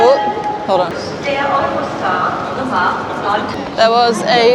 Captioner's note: Announcement in German: Der Eurostar Nummer